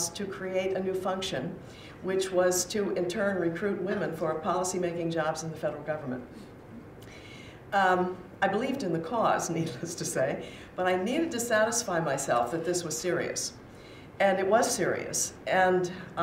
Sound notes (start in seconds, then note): none